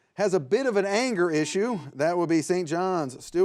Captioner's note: buzzer beeps